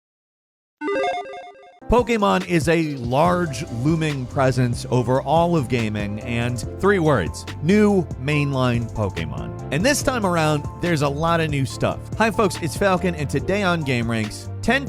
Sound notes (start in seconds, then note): 0.8 chiming